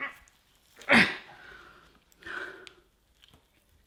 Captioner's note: grunts